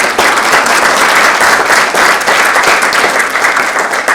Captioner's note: all applauding